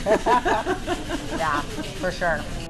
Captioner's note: laughter; upbeat music